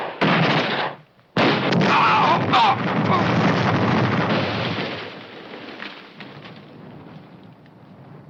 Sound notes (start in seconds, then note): 1.4 bomb exploding; 1.9 men screaming